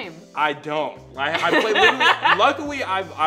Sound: laughter

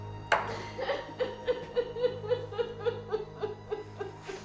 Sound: Kelly sobbing

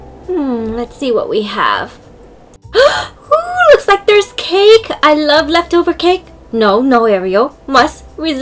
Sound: gasp

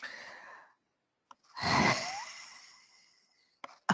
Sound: laughing

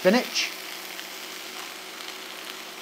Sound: sizzling

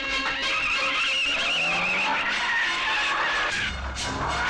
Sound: tires Screeching

